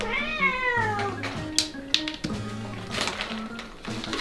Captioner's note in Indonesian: suara snack yang jatuh